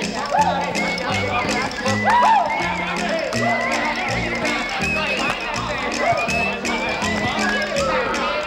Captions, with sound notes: - WHOOP! - WHOOP! (PLAYERS CHATTER)